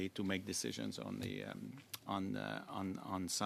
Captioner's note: speaking French